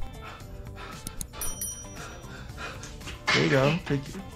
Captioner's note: IShowSpeed panting